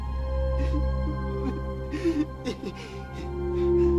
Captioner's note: whimpering